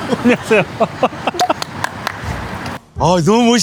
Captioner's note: 100% genuine applause